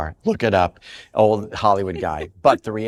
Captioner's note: laughs